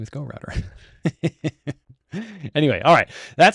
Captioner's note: laughs